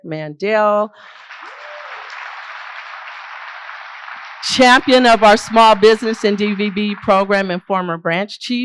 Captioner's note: applause